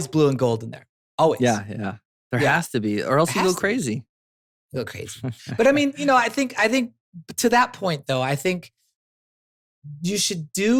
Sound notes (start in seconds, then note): 5.2 laughs